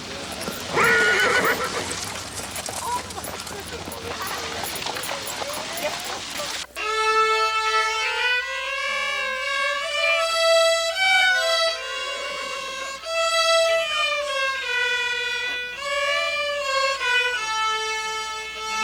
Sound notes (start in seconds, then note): 0.0 horse neighs; 6.7 rudimentary string music